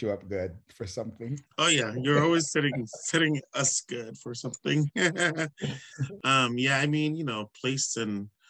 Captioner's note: laughs